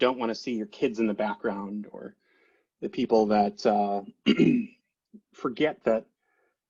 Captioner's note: clears throat